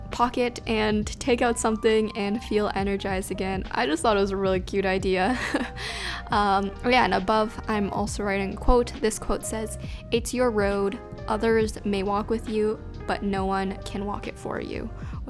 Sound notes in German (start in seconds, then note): 5.3 lacht